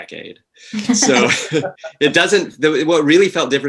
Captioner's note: all laughing